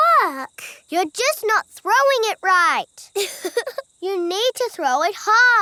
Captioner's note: chuckles